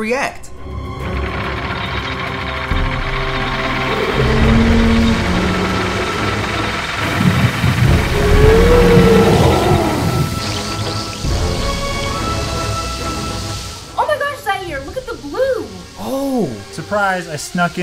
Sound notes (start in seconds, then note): 0.8 rattling; 2.7 roaring; 10.0 fizzing